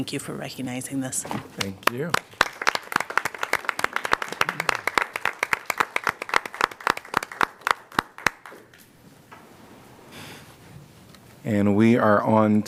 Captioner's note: applause